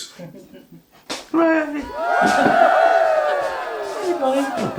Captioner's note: crowd cheering